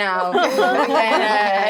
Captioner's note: all laughing